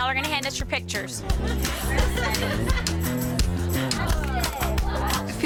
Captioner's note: chatting excitedly; laid-back music